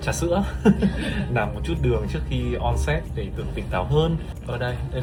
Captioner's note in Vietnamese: tiếng cười